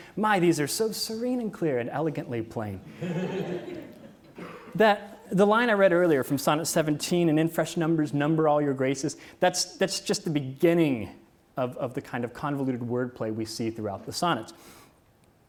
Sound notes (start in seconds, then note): 2.8 audience laughs